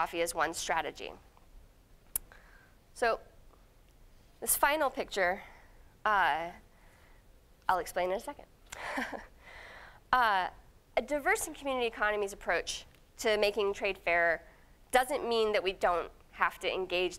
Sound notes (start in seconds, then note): 8.8 chuckling